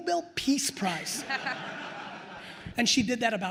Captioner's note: attendees laughing